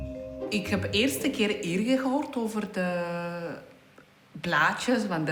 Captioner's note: speaking in foreign language